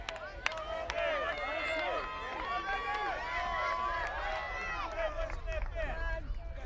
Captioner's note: applause